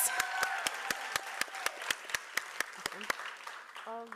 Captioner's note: applause